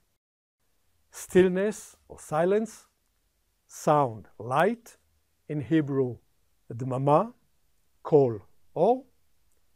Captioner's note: silence